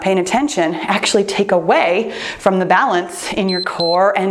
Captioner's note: timer beeps